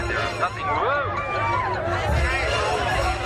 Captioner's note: screaming and panic; music intensifies